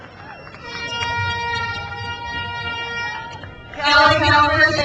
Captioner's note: crowd cheers; horn blares